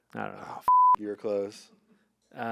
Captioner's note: beep